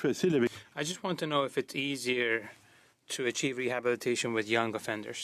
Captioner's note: speaking French